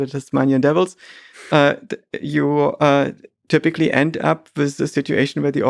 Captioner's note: Lex lightly chuckles